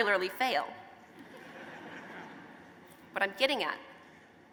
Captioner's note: laughter